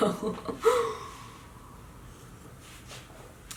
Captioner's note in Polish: Śmiech